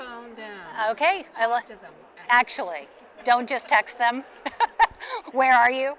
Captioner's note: laughs